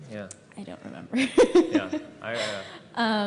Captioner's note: laughter